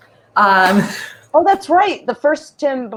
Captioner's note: laughs